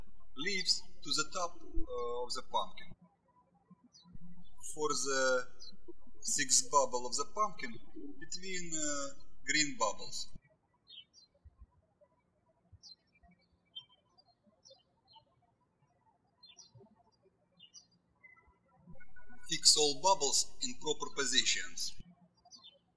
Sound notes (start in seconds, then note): 11.0 birds chirping